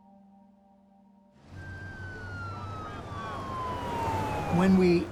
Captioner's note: sirens blaring